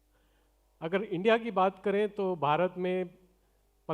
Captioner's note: non-english speech